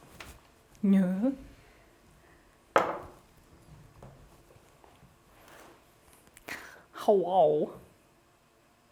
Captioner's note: clunk